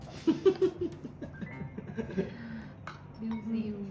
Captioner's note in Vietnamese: tiếng cười